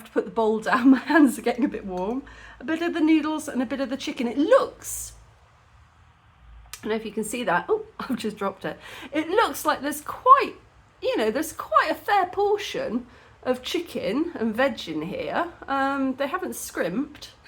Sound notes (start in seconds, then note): none